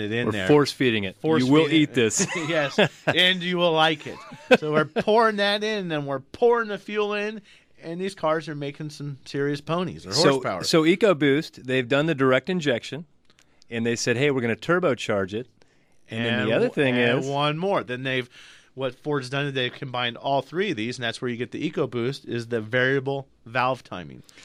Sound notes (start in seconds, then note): 1.4 laughs